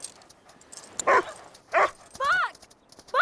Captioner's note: Buck barking